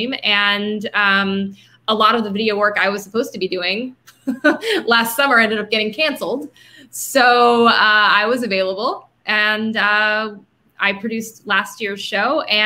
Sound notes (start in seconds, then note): 4.1 laughing